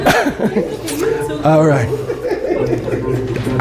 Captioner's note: laughter